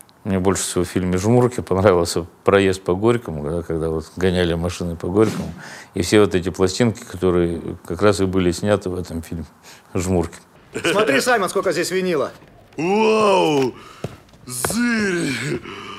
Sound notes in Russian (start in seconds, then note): 10.6 радостно гогочет